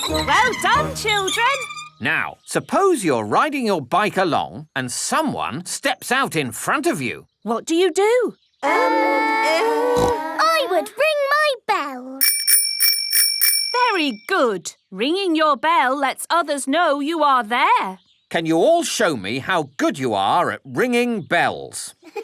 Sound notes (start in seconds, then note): 9.9 peppa snorts; 12.2 rings bell